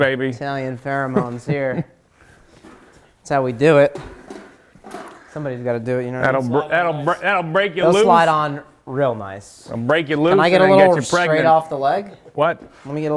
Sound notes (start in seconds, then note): 4.5 metal clinking